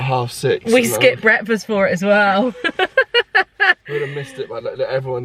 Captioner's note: laughing